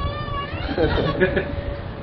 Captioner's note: Gülüyorlar